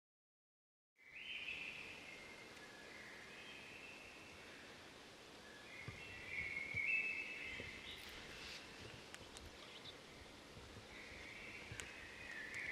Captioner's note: wildlife sounds